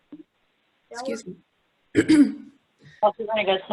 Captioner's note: clears throat